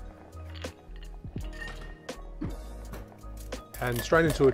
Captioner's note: ice cubes clink